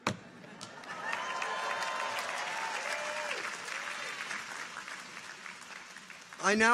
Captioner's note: audience applauds; people cheer